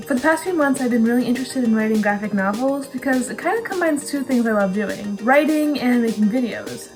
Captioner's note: none